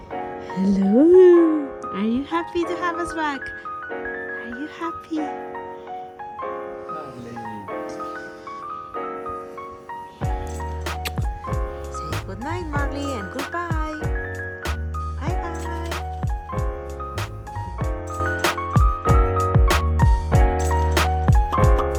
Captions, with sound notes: - Hello. Are you happy to have us back? Are you happy? (Kisses) Say goodnight Marly, and good bye ~ Bye bye ~